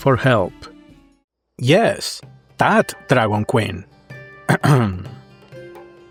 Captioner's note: cultured cough